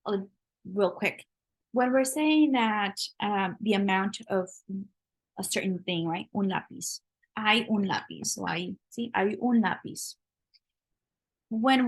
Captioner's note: spanish